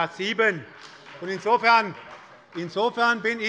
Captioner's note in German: Beifall bei Abgeordneten der SPD